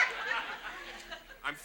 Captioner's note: audience laughs